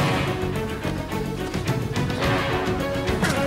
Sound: car sounds

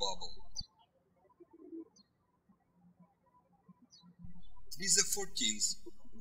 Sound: birds chirping

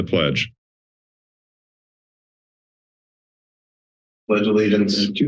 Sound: silence

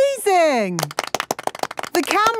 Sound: applause

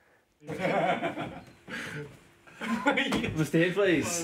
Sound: laughter

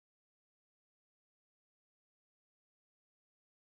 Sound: none

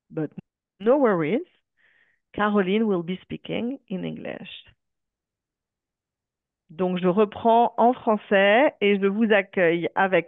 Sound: speaking french

